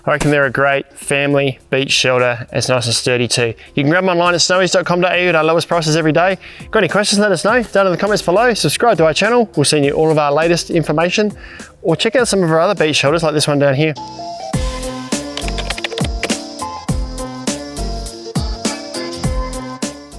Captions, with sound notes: I reckon they're a great family beach shelter, and it's also sturdy too. You can grab'em online at snowys.com.au at our lowest prices every day. Got any questions, let us know down in the comments below, subscribe to our channel, we're seeing you all of our latest information, or check out some of our other beach shelters like this one down here. (casual rhythmic music) (keyboard typing) (casual rhythmic music)